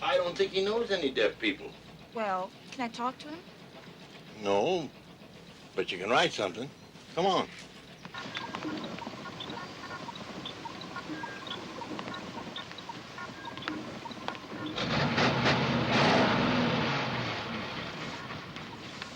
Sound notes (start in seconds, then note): 8.0 machine beeping; 15.5 car chugging